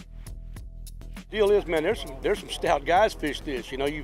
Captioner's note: chatter